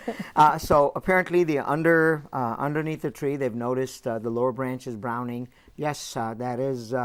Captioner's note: laughing